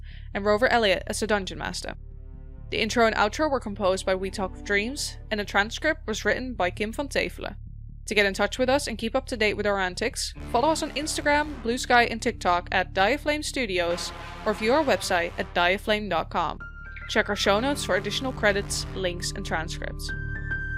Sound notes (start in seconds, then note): none